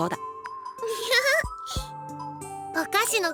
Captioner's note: laugh